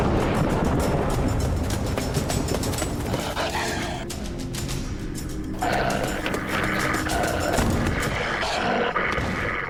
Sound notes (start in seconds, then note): 0.0 thundering; 5.6 growling; 7.6 snarling